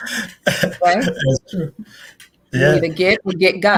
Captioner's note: laughs